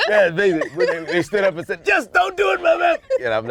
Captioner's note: yelling